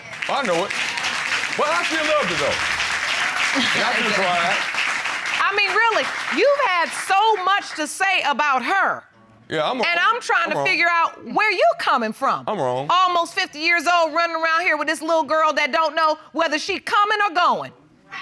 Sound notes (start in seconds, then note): 0.3 audience applauds; 3.5 butler chuckles